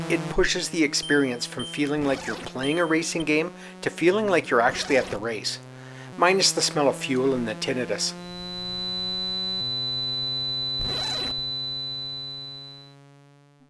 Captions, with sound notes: it pushes the experience from feeling like you’re playing a racing game to feeling like you’re actually at the race — minus the smell of fuel and the tinnitus. [high pitched tone]